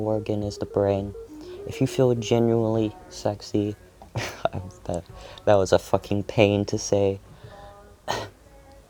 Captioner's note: laughs